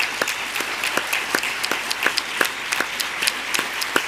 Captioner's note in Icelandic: fagnaðarlæti